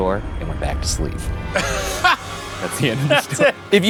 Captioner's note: laughs